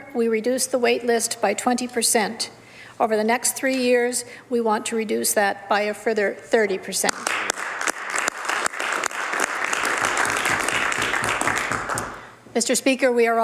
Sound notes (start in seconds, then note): 9.8 some Applause